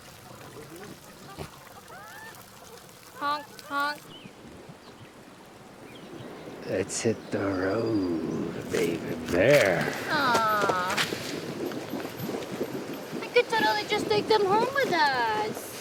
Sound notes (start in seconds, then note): 0.0 water flowing; 3.4 geese chattering; 4.1 stream flowing; 9.2 feet scuffling; 11.5 water loudly bubbling